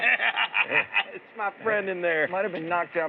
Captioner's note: laughs